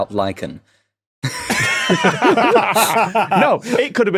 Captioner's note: guys laughing